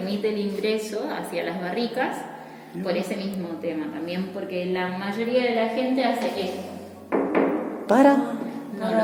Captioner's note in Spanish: toc toc